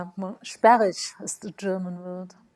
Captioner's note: speaks foreign language